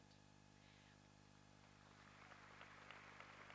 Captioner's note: applause